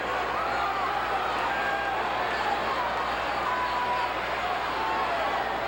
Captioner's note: audience cheering continues